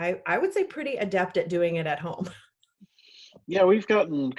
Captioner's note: laughs